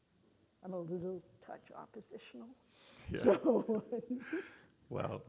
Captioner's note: laughs